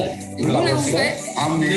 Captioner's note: speaking in foreign language